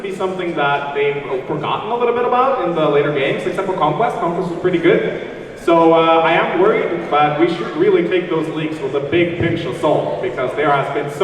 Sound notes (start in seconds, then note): none